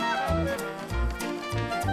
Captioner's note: shrieks